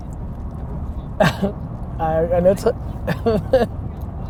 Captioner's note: laughs